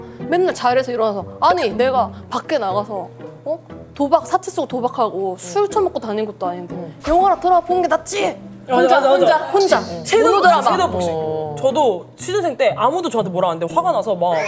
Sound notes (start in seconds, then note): 10.3 shouting into the air like shadowboxing